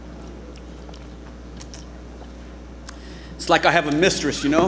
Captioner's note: alcohol burbling